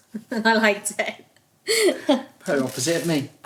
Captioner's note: laughs